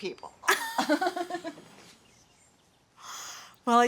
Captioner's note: laughs